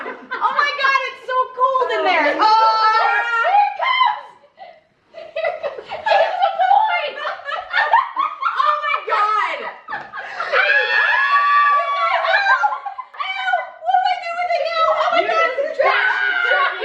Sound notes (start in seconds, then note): 7.3 laughing; 10.4 cheering; 10.5 screaming